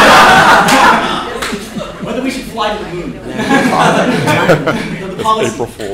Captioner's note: laughter